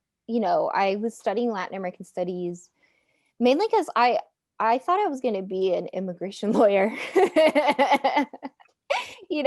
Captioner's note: laughing